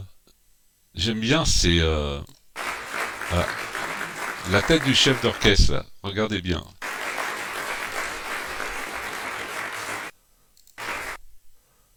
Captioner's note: applause